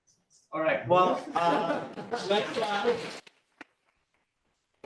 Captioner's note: applause